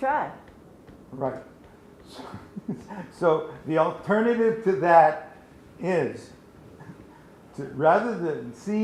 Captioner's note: laughs